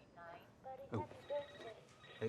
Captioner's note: phone ringing